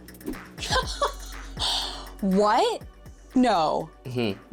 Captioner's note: laughs